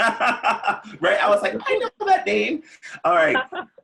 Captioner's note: laughs; laughing